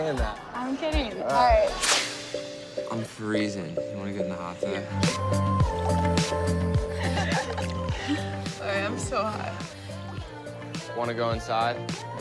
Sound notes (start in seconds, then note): 4.8 romantic music; 6.8 laughs